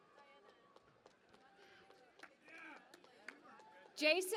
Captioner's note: cheering and Applause